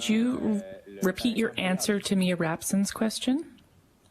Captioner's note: speaking french